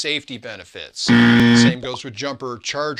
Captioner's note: buzzer